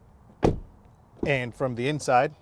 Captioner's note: door thumps